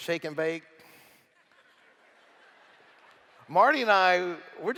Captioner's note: laughter